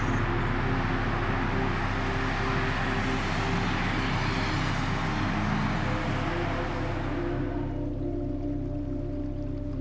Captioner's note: highway traffic in distance